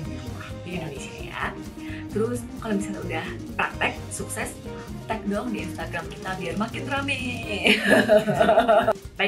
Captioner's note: laughs